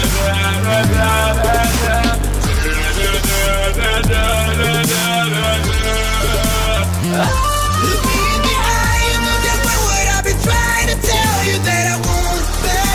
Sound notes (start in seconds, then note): 0.0 vocalizing again; 2.1 even more vocalizing; 8.3 ahh-ah-a-a-ahh